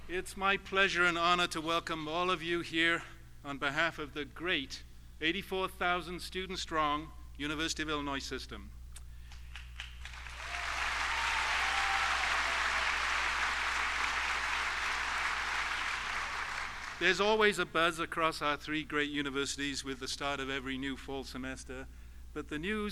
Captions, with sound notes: It's my pleasure and honor to welcome all of you here on behalf of the great 84,000 students strong University of Illinois system. (applause) There's always a buzz across our three great universities with the start of every new fall semester.